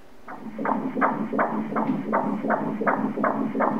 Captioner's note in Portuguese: batimentos cardíacos